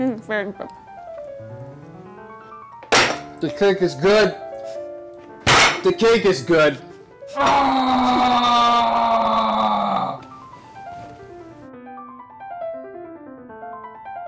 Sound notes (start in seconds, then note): 7.3 screaming; 10.5 piano playing